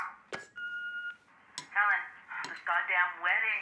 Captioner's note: machine beeping